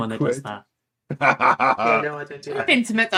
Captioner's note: laughs